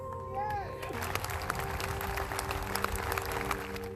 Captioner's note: crowd applauding